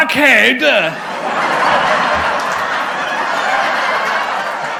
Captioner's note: canned laughter